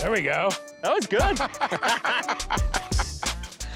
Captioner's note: laughter